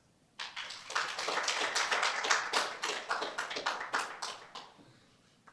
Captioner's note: applause